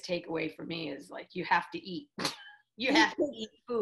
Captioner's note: laughs